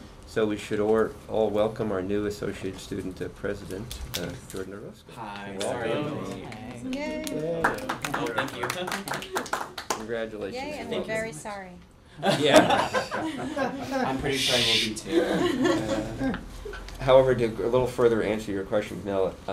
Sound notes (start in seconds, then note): 7.2 applause; 12.2 laughter